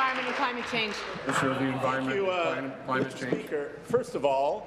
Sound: applause

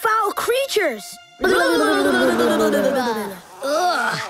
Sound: scary noises

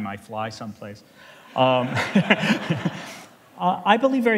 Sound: laughter

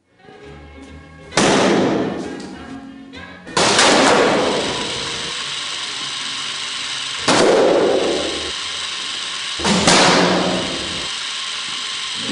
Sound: bang

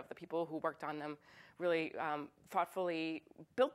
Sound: none

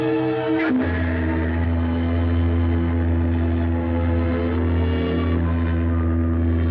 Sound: ship horn honking

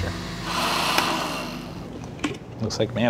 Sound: blenders stopping

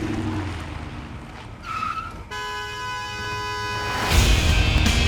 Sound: brakes screech; horn blares

